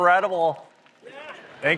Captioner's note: cheering